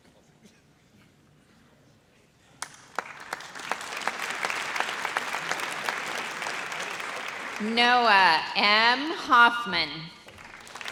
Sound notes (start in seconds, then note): 2.6 audience applauds